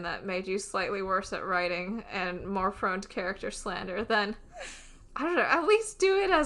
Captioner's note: laughs